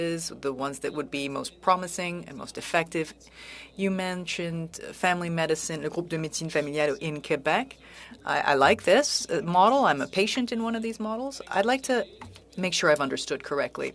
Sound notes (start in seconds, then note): 11.2 speaking French